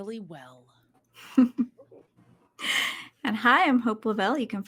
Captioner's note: giggling